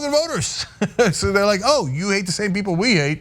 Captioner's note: laugh